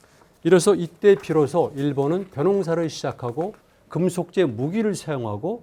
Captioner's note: speaking in Korean